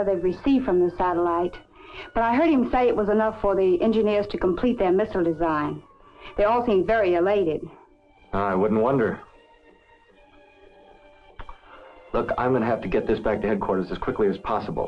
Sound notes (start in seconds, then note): 11.5 inhales